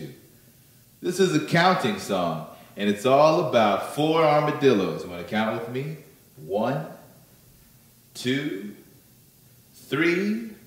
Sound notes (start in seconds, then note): none